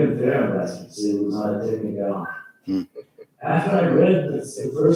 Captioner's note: faintly speaking